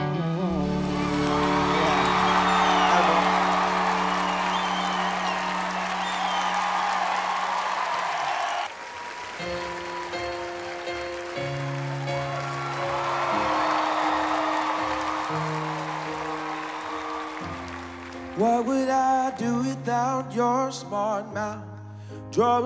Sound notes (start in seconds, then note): 1.4 audience cheering; 9.4 upbeat music